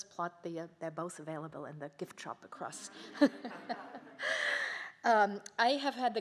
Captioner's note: laughs